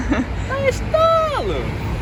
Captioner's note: imitating strong accent from our region